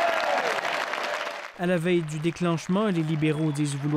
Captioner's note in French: applaudissements